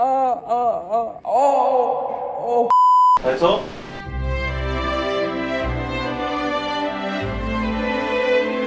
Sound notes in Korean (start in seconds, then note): 0.0 신음 asmr